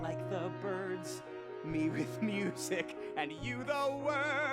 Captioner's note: chuckles